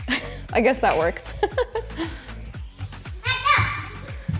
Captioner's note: laughs